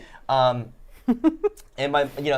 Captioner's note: laughing